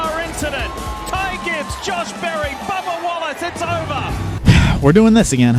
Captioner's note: crowd clamoring